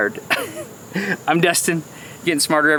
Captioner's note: chuckles